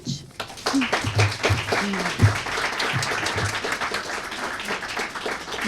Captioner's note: applause